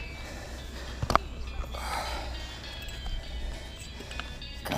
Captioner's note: exhales heavily